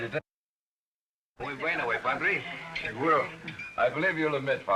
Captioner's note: speaking spanish